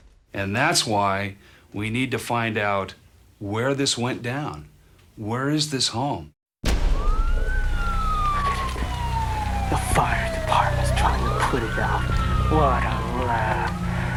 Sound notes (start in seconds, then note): 6.7 sirens